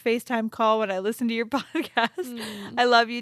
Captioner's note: chuckles